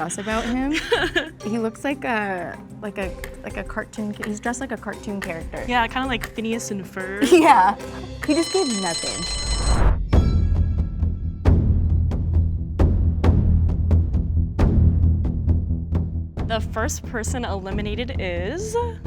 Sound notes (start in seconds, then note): 8.1 bell rings; 11.3 tense music